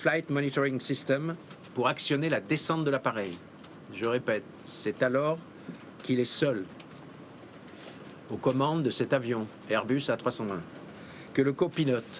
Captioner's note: speaking in french